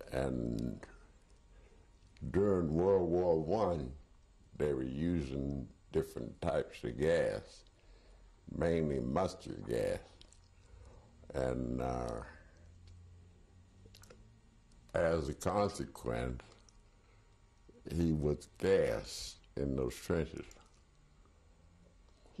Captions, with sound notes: And during World War I, they were using different types of gas, mainly mustard gas. And [PAUSES FOR 3 SECONDS] as a consequence, he was gassed in those trenches.